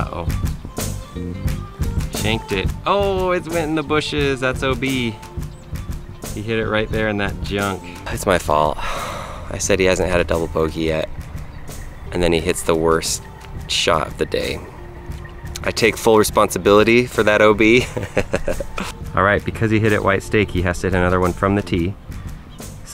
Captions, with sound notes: Uh-oh, shanked it, oh it went in the bushes, that's OB. He hit it right there in that junk. It's my fault, I said he hasn't had a double bogey yet, and then he hits the worst shot of the day. I take full responsibility for that OB (laughs). Alright because he hit it white stake, he has to hit another one from the tee.